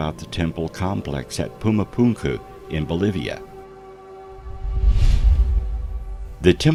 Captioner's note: air whooshing